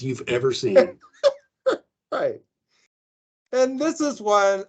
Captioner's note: laughing